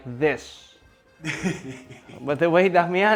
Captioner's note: laughs